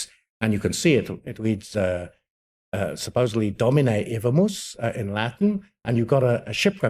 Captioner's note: speaks in Latin